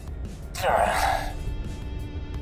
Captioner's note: grunt